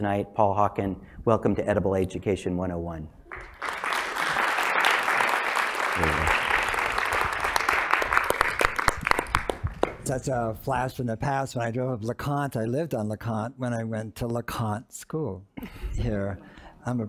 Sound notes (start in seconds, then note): 3.3 applause